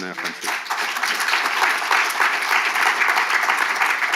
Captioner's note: audience applauding